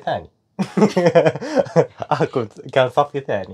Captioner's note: giggles with guiltiness